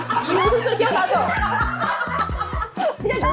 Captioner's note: A laugh that was not cast